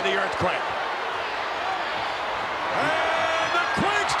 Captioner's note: crowd shout